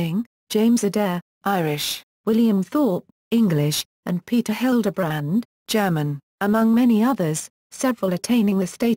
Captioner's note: German